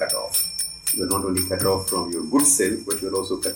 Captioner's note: bells jingling